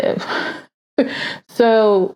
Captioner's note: chuckles